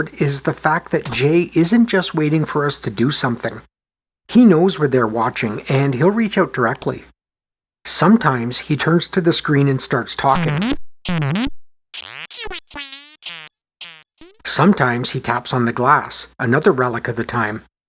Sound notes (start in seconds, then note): 11.3 c64 talking effect